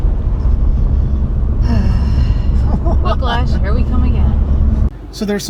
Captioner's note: exasperated sigh